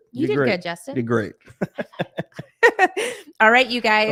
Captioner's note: laughing